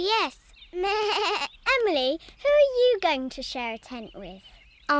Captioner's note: bleats